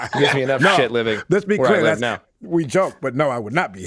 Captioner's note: all laughing